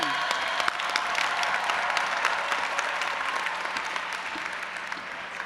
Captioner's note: audience applauding and cheering